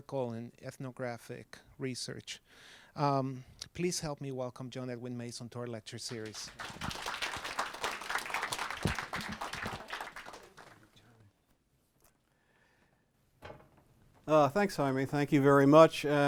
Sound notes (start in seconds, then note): 6.0 audience clapping